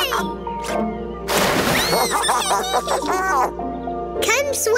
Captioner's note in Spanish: splash; risitas